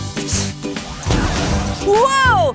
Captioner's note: potion spraying